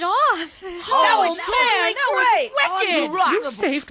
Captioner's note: all cheering